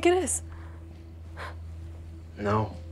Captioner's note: Lucy scoffs